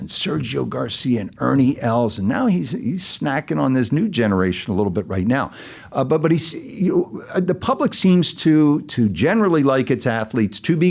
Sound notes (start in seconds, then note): none